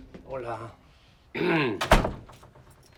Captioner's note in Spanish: carraspea